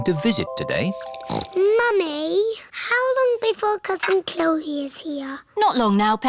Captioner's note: snorts